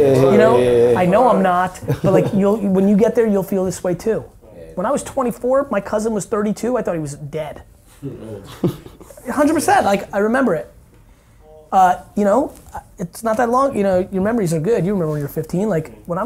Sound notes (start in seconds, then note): 8.0 laughing